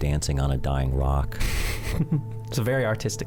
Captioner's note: chuckles